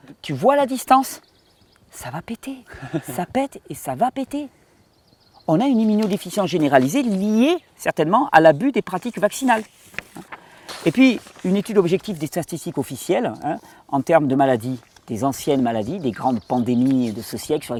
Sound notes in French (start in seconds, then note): 2.7 rires